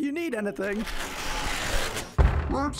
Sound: shapeshift sounds; loud thud; deep voice

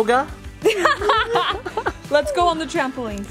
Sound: laughing

